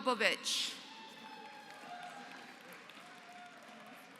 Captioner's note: applause